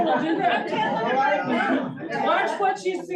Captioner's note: crowd chuckles